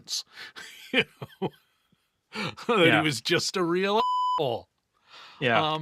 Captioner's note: beep